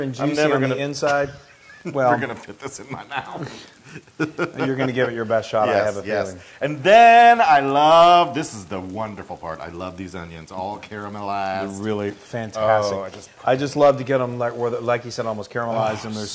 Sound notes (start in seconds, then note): 3.6 laugh